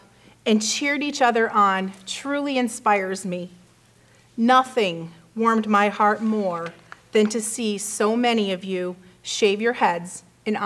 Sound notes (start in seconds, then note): none